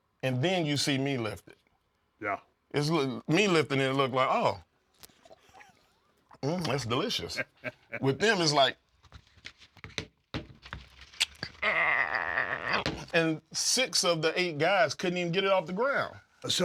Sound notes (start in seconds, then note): 6.4 laugh